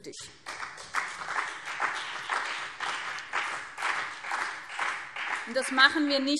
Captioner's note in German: Beifall BÜNDNIS 90/DIE GRÜNEN und CDU